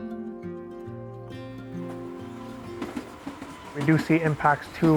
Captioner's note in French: sons d'activité industrielle